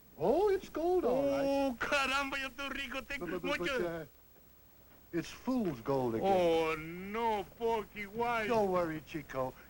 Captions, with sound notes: Oh, it's gold, all right. [NON-ENGLISH SPEECH]. It's fool's gold again. Oh, no, Porky, why? Don't worry, Chico.